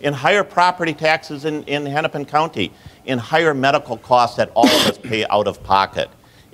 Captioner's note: cough, 43:49